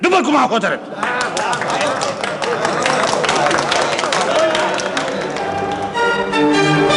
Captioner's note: sounds of applause in the hall